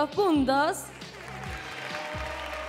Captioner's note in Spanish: Aplausos